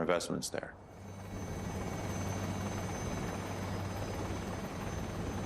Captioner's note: helicopter engine whirring